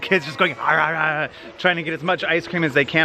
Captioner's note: impersonates eating